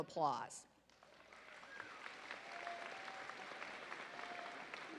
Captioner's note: audience applauding